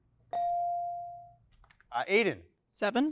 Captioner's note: bell chiming